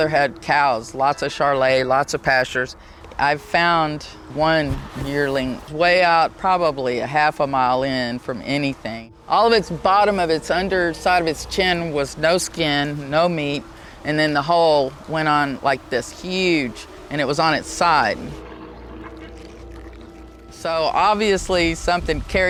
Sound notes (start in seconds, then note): 17.4 animal snarling; 17.7 haunting music